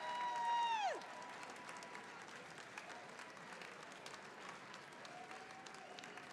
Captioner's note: attendees applauding; attendees cheering and applauding